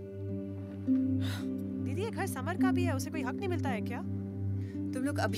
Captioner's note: Sighs